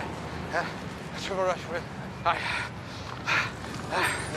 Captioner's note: panting